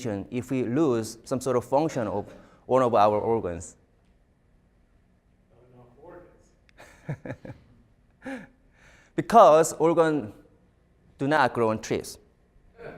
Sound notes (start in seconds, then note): 6.7 chuckles